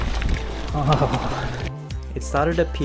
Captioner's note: grumpy noises